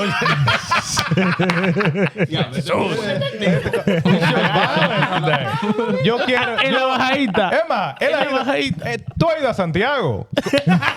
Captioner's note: laughing; speaking In Foreign Language